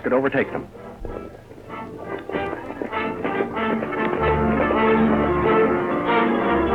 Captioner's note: hooves clatter; suspenseful music